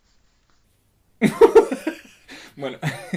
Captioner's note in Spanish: Risas